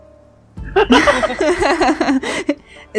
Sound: laughter

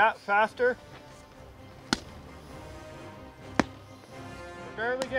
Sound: sledgehammer bumping

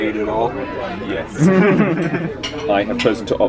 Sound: laughs

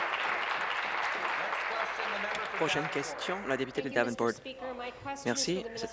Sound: applause

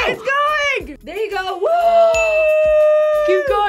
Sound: React gasps

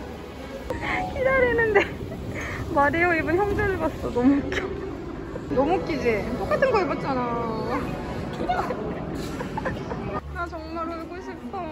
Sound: laughs

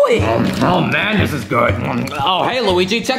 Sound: munching

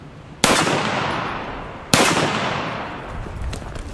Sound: gun fires

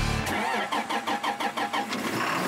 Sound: engine starting; engine roars

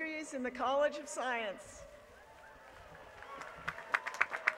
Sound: applause

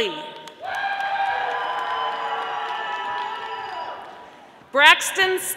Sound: audience applauding

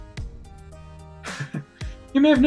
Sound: chuckles

